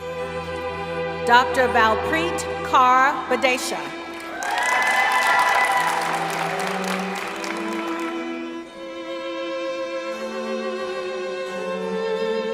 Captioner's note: cheering